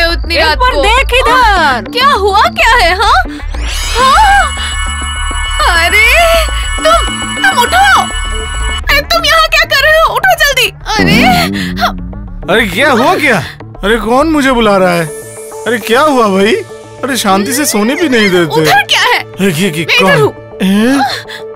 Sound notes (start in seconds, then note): 3.8 gasps